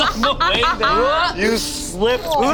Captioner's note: gags